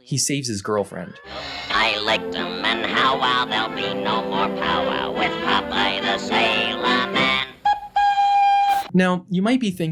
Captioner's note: toot toot